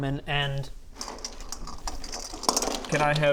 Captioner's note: digging noises